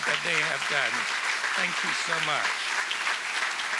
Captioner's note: applause